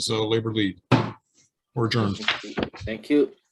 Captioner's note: sounding the gavel